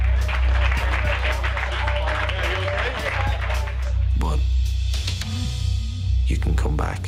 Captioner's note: applause